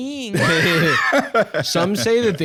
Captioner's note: both laughing